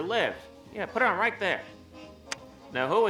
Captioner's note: clicking